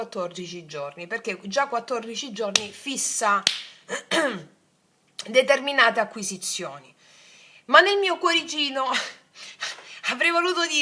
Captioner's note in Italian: schiarire la voce